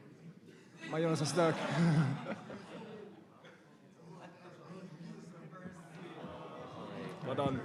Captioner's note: laughter